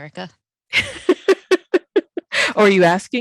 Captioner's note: laughing